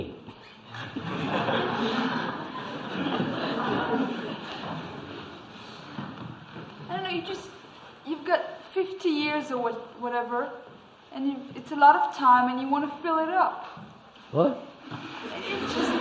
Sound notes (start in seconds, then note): 2.6 laughter